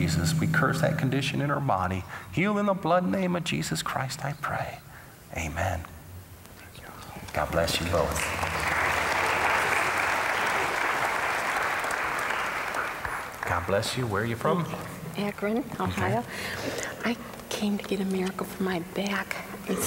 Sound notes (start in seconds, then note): 6.8 whispering; 7.6 applause